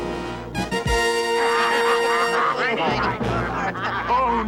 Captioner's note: soldiers laugh gleefully